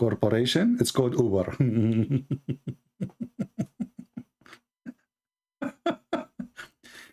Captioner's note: Ketawa